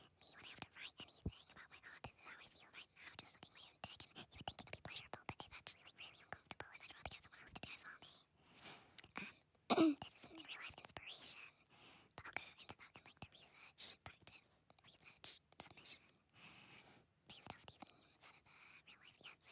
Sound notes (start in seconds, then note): 9.7 clears throat